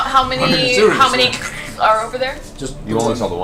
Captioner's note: monster sounds